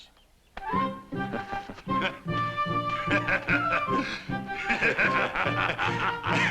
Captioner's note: all laugh